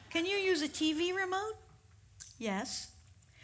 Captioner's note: none